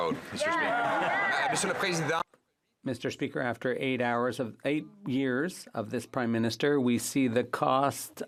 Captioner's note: some Applause